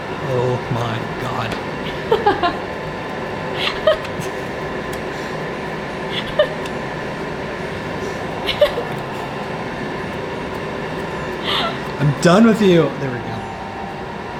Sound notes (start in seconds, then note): 2.2 laughing